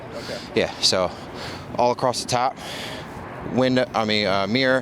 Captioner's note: breathing heavily